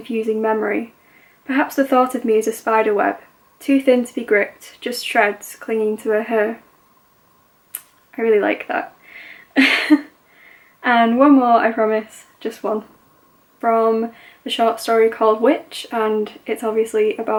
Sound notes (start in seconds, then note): 9.5 laughs